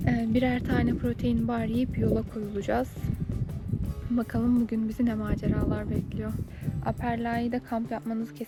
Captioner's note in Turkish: none